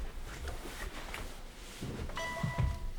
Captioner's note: text tone